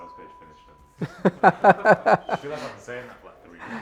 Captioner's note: laughs loudly